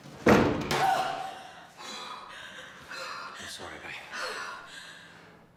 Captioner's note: woman screaming